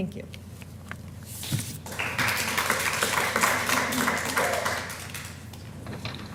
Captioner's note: applause